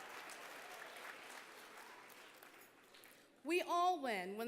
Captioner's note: applause